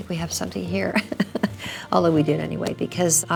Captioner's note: Priscilla laughs